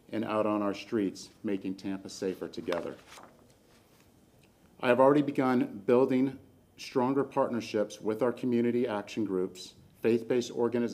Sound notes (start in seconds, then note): none